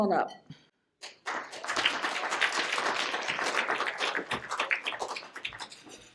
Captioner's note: applause